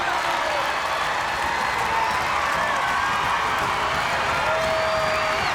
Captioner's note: crowd clapping and stomping